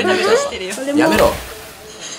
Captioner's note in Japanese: ザバァ～ン